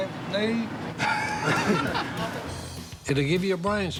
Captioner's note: laughing